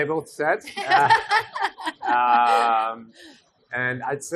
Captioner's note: laughs